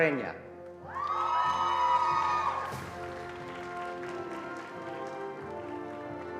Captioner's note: attendees cheering and applauding